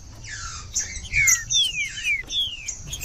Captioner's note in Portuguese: trinca ferro cantando